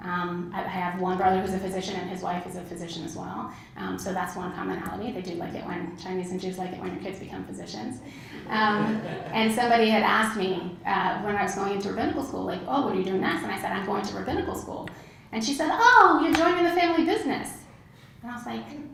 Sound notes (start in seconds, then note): 8.3 laugh